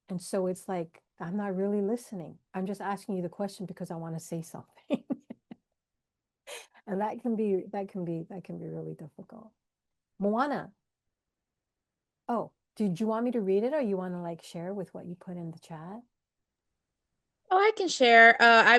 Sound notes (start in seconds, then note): 5.0 laughs